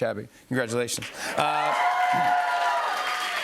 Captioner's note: cheers and applause